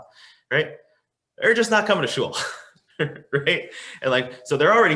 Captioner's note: laughing